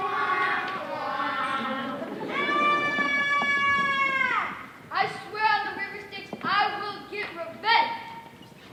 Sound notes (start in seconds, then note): 2.5 yelling